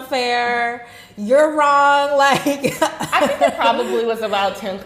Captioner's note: laughing